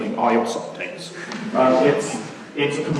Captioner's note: laughing